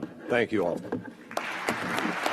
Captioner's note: applause